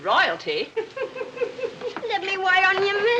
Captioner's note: giggling